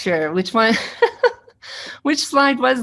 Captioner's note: laughing